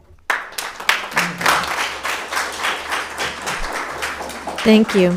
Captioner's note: audience applauding